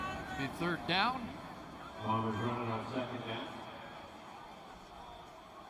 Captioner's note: whistle